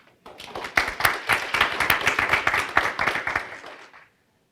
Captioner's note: applause